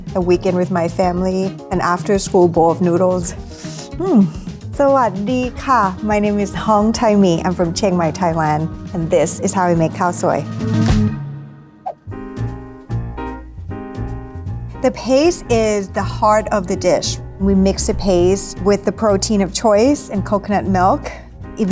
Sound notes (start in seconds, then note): 3.7 slurps; 5.0 speaking foreign language; 10.6 laid back music